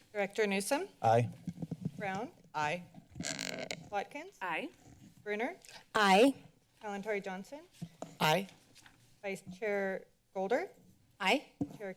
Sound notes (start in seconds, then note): 0.0 microphone sounds; 3.2 microphone sounds